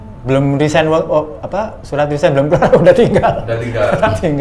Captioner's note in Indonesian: tertawa